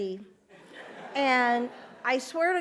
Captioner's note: audience laughs